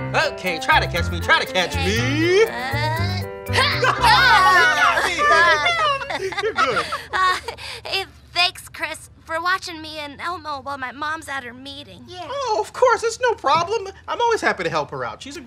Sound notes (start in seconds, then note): 3.5 laughing; 4.0 yelling